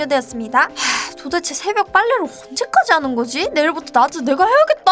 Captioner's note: sigh